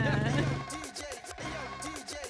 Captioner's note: laughs